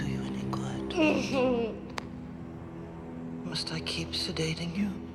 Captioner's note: Aeryn grunting